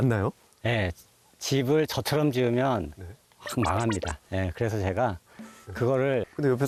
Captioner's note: just laughs